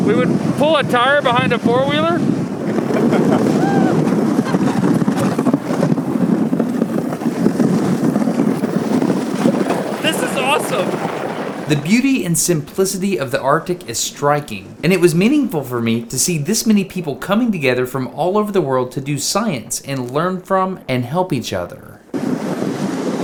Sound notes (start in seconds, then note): 2.8 laughing